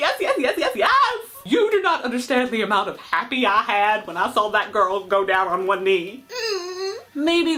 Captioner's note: squeals!